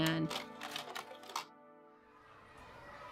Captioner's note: projector clicks